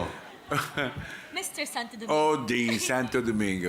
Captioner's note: chuckles